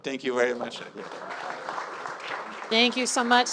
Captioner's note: audience applauding; audience cheering